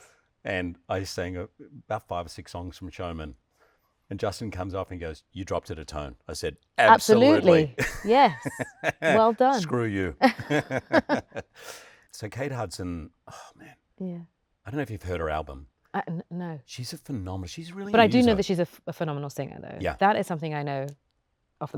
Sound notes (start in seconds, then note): 10.2 both laughing